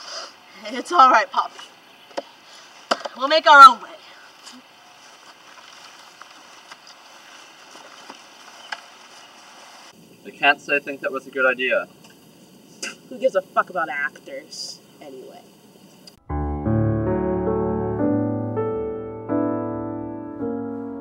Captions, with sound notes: It's all right, Poppy. We'll make our own way. I can't say I think that was a good idea. [spits] Who gives a fuck about actors, anyway? [EMOTIONAL PIANO MUSIC]